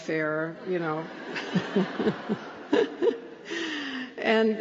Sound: laughter

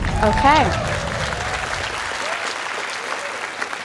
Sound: scattered applause

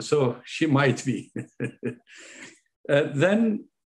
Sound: laughing

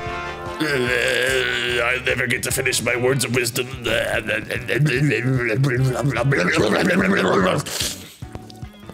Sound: gurgling death noises

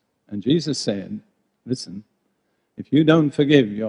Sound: none

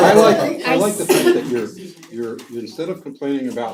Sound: laugh

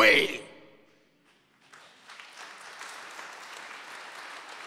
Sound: audience applauds

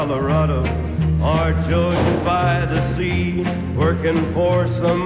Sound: door slams

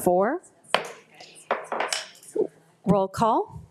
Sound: gavel banging

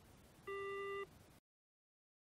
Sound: phone hanging up beep

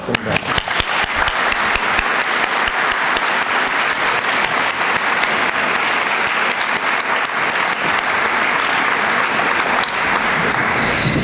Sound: applause

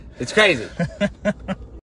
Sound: laughs

